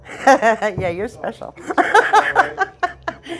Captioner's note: laughter